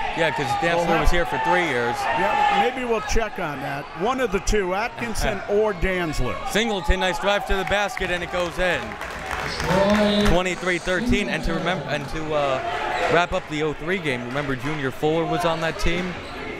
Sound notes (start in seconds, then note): 9.0 crowd members clapping